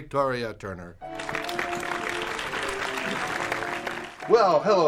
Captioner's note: instrumental Music; applause